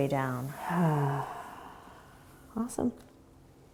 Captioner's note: exhaling sigh